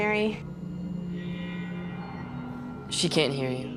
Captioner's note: ominous music; beeping